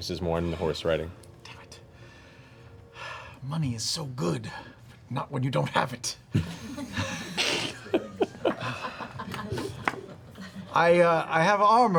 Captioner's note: sighs